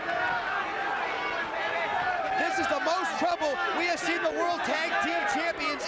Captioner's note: applause